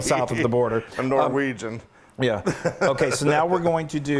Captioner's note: laugh